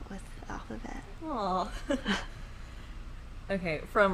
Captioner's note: laughing